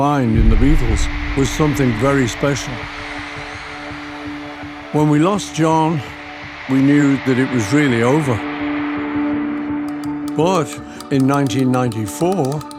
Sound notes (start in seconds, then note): 3.0 audience screaming